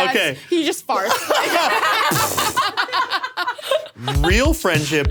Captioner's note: all laughing